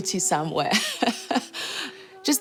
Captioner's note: chuckles